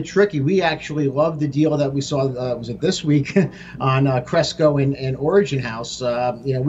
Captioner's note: chuckle